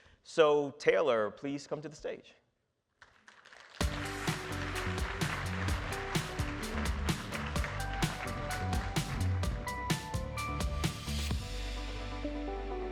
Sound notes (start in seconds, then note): 3.1 audience applauding; 3.8 upbeat music